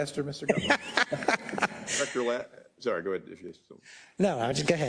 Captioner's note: laugh